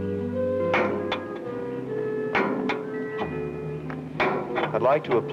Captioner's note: metal wrench hits pavement; clanking